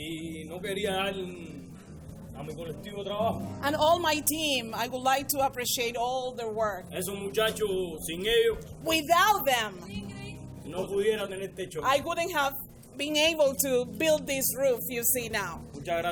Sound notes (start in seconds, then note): 0.1 interpreter speaking in foreign language; 7.1 interpreter speaking in foreign language; 10.6 interpreter speaking in foreign language